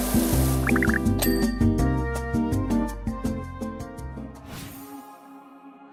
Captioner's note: numbers popping; bell dings; gentle music